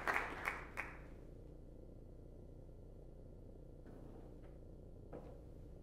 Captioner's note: applause